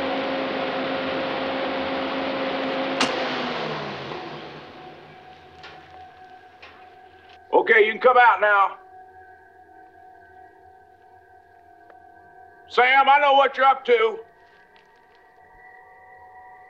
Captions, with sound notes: (trimmer powering down) - Okay, you can come out now. (tense music) Sam, I know what you're up to.